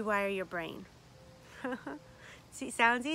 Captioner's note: laughs